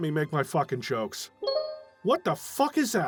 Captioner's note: Steam notification